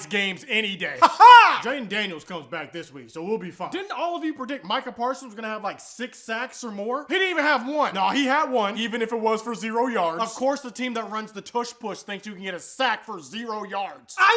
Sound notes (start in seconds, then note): 1.0 weird laughing never ends